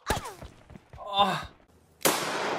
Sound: sigh

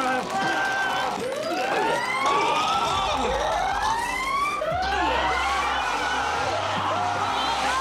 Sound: siren wails

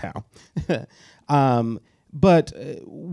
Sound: chuckles

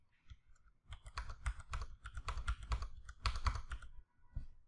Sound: keyboard clicks

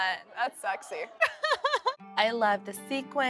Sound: laughter

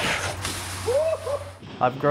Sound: grass rustling; rubber scraping concrete; cheering

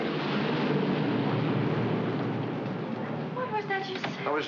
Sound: aircraft roars overhead

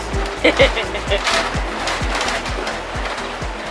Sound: laughs

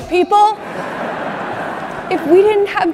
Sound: audience laughs

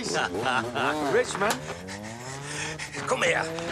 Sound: laughing

